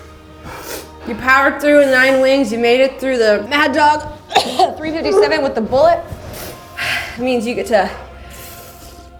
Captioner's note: cough